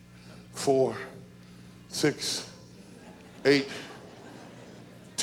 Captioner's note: audience chuckles